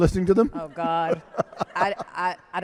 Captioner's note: laughs